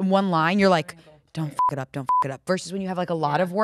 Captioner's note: beep